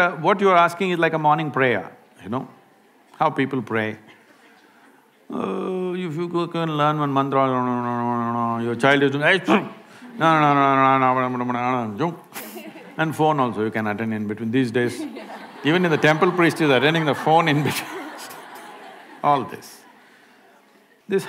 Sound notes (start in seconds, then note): 11.2 makes funny sounds; 14.9 laughter